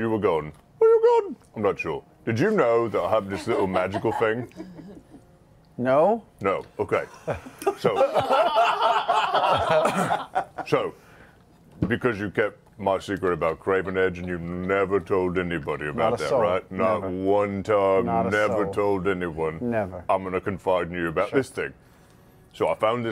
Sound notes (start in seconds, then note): 7.2 laughter